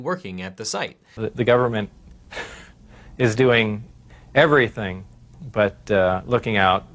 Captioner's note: chuckles